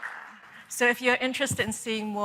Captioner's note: applause